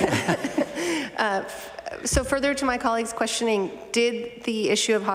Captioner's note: laughter